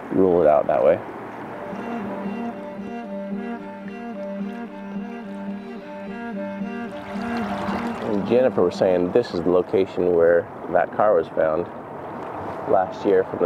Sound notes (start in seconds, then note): 6.6 water gently rushing